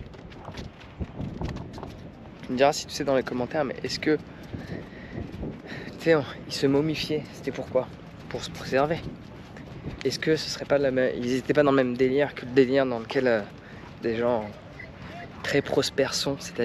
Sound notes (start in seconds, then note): 1.1 wind blowing; 3.1 speaking in foreign language; 13.7 speaking in foreign language